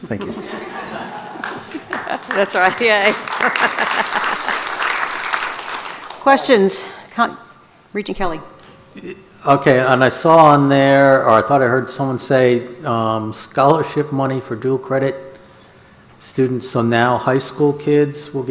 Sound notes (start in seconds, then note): 0.1 audience laughs; 3.4 laughs; 3.7 audience applauds